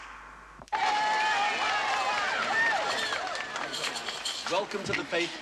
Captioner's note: Аплодисменты публики